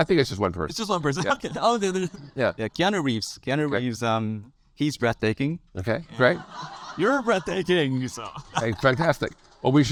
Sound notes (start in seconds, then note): 6.1 audience laugh